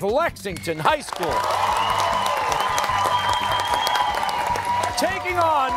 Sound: cheers and applause

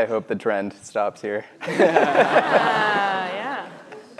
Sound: laughs

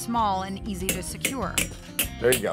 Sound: hammering

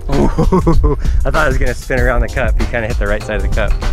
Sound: laughing

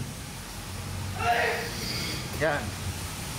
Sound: obnoxious sneezing in the background

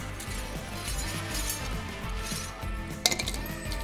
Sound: metal clinking

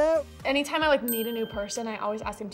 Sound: bell dings

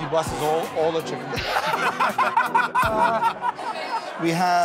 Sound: laughter

